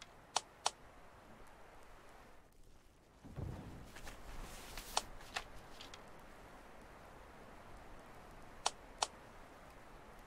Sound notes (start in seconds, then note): none